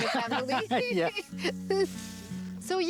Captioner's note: laughs